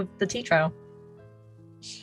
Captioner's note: none